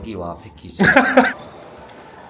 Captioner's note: chuckles